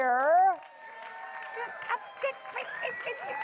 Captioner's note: applause